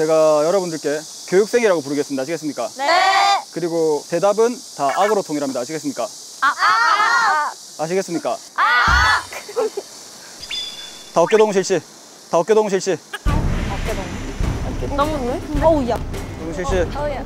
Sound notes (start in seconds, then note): 8.6 laughs